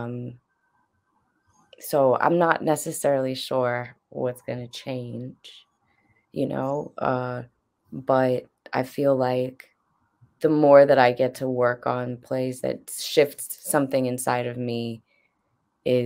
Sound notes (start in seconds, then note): none